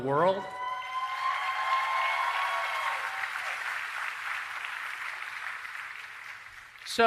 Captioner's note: cheering and Applause